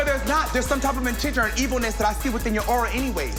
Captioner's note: speaking Spanish